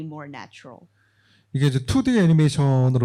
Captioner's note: speaking korean